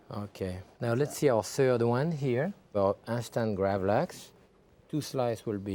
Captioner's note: none